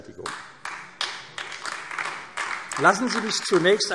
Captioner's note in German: Beifall AfD